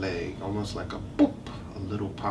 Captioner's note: imitates popping sound